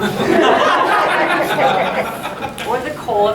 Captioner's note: audience laughing